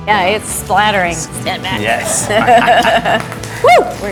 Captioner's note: laughing